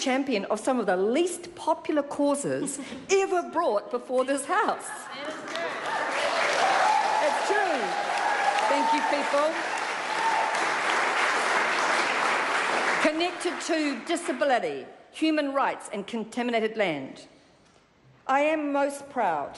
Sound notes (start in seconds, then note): 5.2 applause